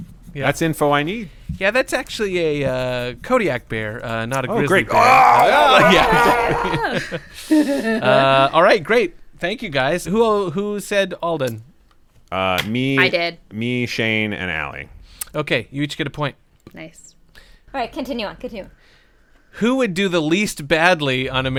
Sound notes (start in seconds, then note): 7.5 imitates being mauled by a Kodiak bear; 8.6 laughter